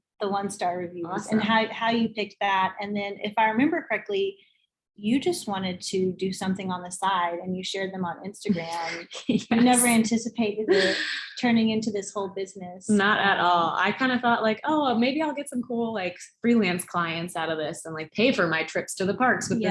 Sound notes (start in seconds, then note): 9.6 laughs